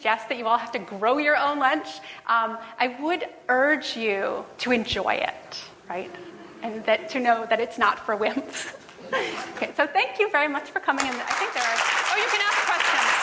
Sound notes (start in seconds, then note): 5.8 laughs